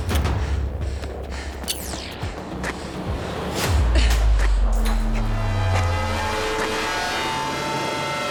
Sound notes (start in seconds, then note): 4.0 electrical buzzing